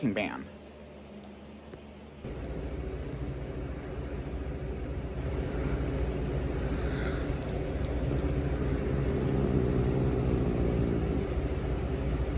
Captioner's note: growls